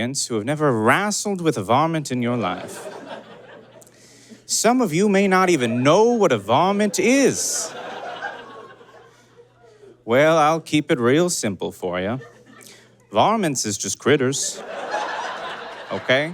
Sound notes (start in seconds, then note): 2.4 audience giggles; 6.8 audience laughs; 7.6 spectator boos; 14.4 audience laughs heartily